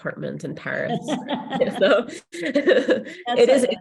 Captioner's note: laughs